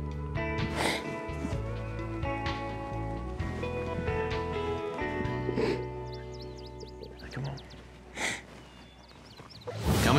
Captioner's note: sniffs